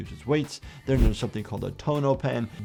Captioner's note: Tonopen whooshing